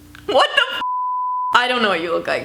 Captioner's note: beep